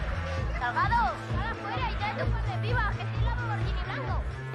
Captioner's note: spanyol